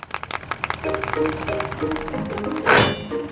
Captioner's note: clapping